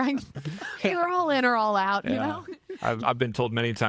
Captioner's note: laughing